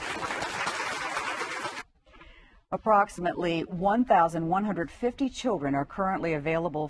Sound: applause

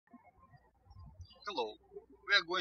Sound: birds chirping

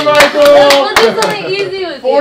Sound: hands clapping

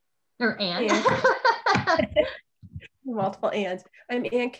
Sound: laughs

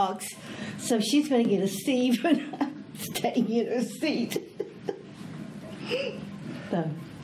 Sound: laughs

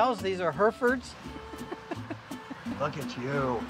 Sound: laughing

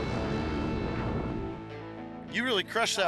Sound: engines revving

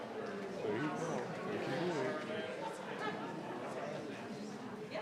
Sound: people chattering

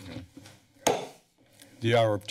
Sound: gavel tap

